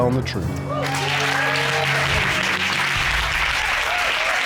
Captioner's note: applause